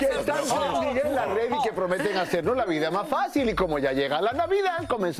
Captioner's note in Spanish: risas